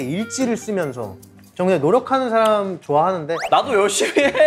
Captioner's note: saying gently